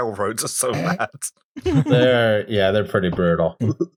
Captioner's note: laughter